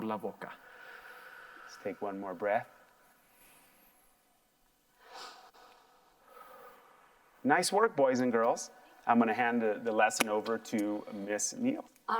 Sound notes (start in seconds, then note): 2.6 soft breathing